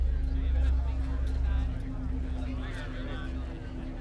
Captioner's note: people chatting